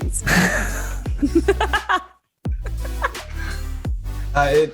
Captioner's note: laughter